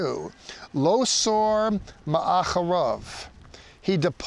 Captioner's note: speaking in Hebrew